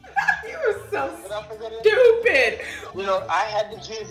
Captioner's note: laughing